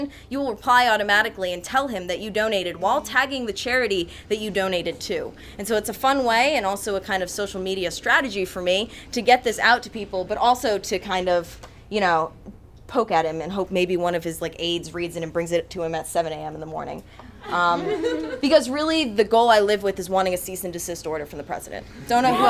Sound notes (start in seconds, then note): 17.3 audience chuckles